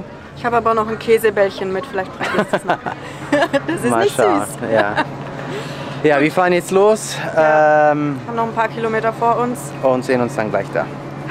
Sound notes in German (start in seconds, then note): 2.2 lacht; 5.6 Lachen